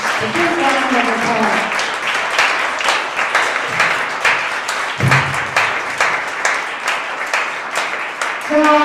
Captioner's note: applause